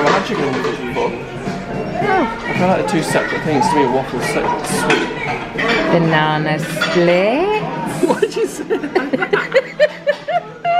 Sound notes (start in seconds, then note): 7.9 laughing